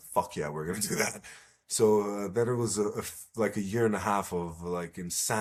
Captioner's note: laughs